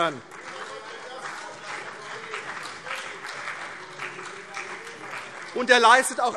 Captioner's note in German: Beifall CDU und BÜNDNIS 90/DIE GRÜNEN